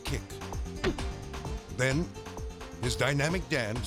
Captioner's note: leg thumps